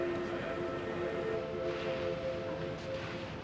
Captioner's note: plastic tarp rustling